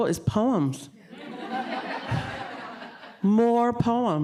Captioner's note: audience laughing